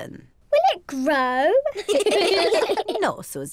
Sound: all laugh

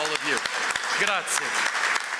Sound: applause

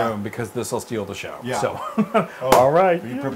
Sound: laugh

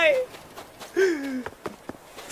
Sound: inhales deeply

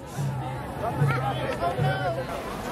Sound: crowd Sounds

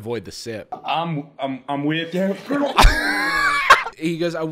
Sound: gurgles

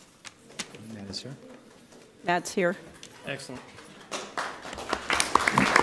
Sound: applause

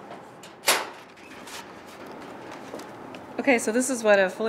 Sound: storage lock opening

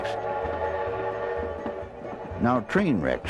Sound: steam train sounds

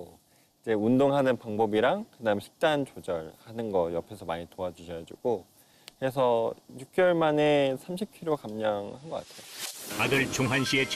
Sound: voiceover

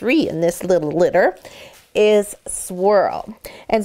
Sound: none

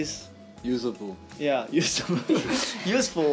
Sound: laughs

